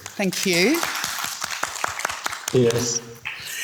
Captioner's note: audience applauds